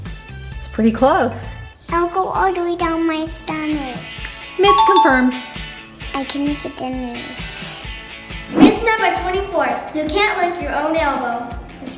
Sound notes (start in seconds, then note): 6.2 mumbles